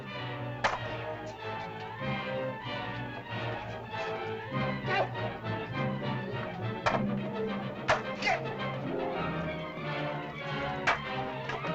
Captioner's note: suspenseful music; spears bang